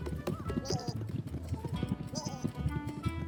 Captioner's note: sheep bleating